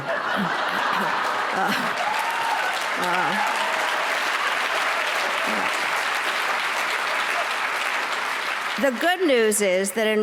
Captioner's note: applause